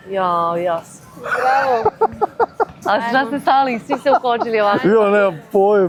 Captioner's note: laughter